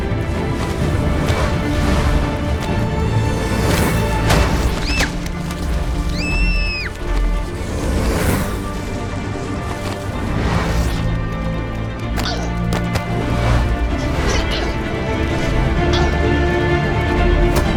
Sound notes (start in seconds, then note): 4.2 thud; 5.9 scream; 6.1 cries out; 13.6 groan